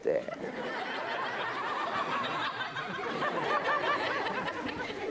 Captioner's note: audience laughs